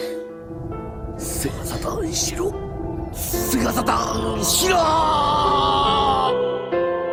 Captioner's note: sobs